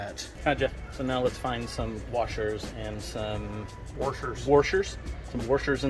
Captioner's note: said in a Southern accent